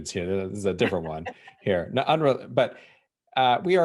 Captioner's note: laughing